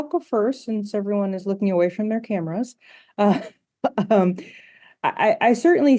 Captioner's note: chuckles